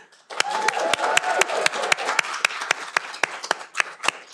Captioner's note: audience applauding